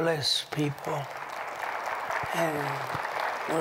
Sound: applause

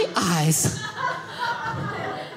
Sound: audience laughing

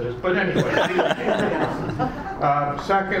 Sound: laughing

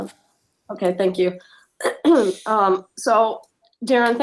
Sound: clears throat

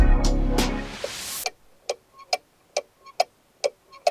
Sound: ticking sound

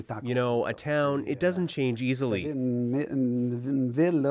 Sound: speaking French

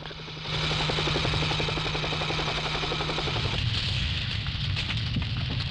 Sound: plane engine rumbling

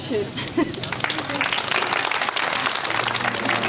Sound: clapping

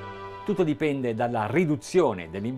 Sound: speaking in Italian

